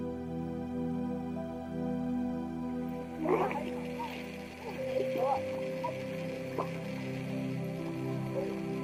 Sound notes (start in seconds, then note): 3.0 gentle music continues; 3.1 tourists chattering